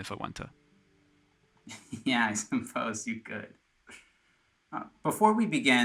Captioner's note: laughs